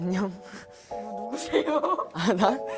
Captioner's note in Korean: 웃음